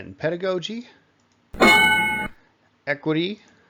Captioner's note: ding